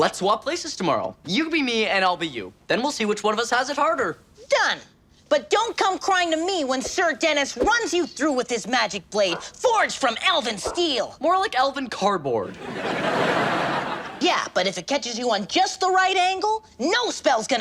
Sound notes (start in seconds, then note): 12.4 audience laughs